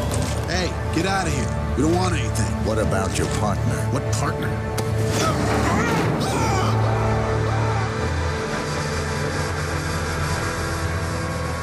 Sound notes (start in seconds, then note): 5.1 struggling sounds; 5.2 screams